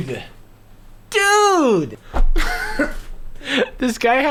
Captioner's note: laughing